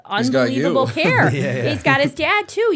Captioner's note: chuckle